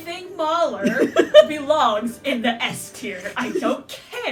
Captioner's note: laughter; laughter